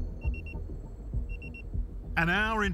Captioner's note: pager beeps